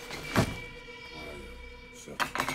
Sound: bag thumping

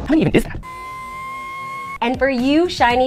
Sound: kettle boiling

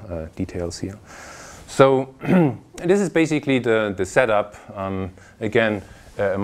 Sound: cough

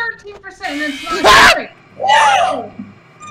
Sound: Freddy Scream

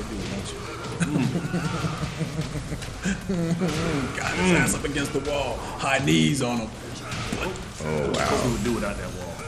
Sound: laugh

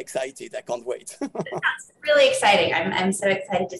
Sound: laughing

